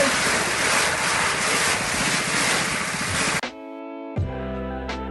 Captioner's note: water blasting; subtle tropical music